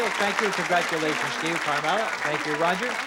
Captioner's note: mutters